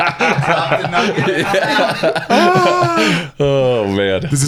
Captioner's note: both laugh